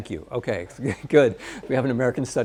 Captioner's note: laughs